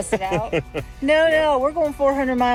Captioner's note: laughs